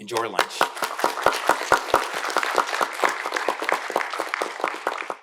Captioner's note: audience applauding